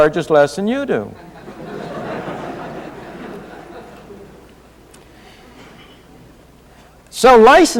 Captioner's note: laughter